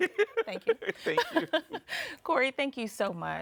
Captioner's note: laughing